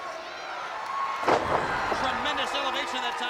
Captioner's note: body thuds